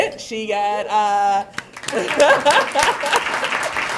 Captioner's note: applause